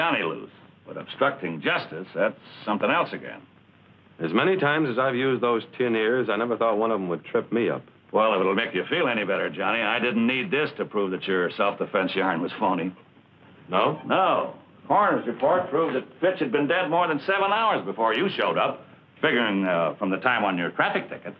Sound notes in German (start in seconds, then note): none